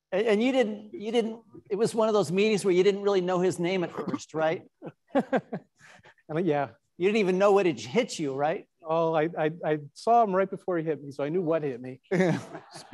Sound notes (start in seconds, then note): 4.8 laughing